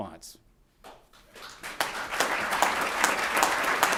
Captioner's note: applause